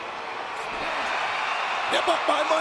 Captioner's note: audience cheering